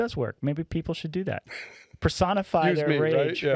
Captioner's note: laughing